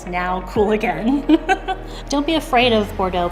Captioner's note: laughs